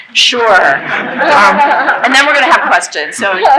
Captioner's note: laughing